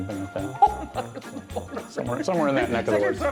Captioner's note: laughs